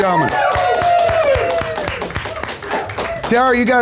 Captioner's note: audience applauds